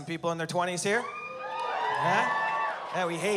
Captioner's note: cheering